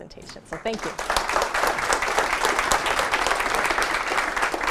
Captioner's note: applause